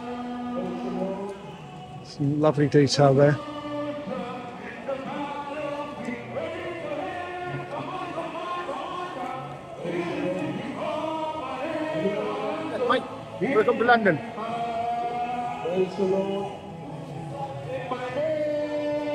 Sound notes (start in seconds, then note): 3.2 chanting